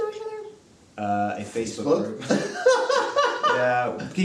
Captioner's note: both laugh